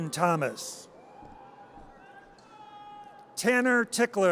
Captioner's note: audience cheers